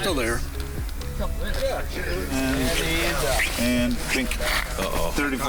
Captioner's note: crew chattering